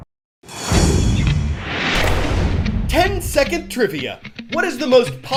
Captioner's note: voice-over